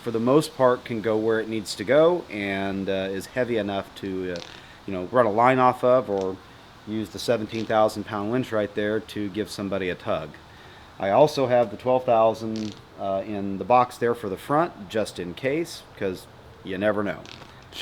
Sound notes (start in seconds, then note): none